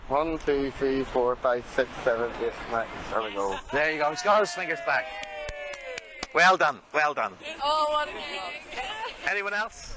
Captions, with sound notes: - One, two, three, four, five, six, seven, eight, nine. There we go. - There you go. He's got all his fingers back. (clapping) Well done, well done. - Oh, what a day. - Anyone else?